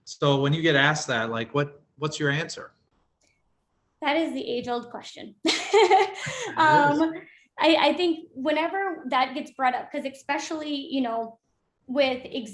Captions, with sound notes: When you get asked that, what’s your answer? -That is the age-old question. [laughs] I think whenever that gets brought up, because especially with